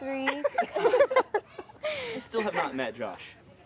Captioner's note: laughing